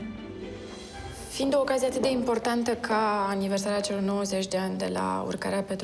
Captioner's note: speaking foreign language